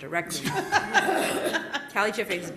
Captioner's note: laughter